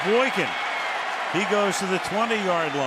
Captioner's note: cheering